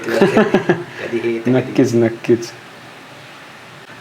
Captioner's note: laghus